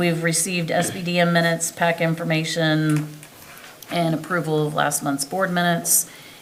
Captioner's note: members laughing; clears throat